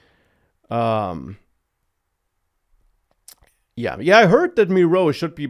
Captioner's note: smacks lips